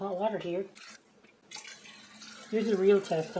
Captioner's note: sound of water pouring